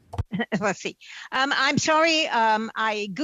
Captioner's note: speaking french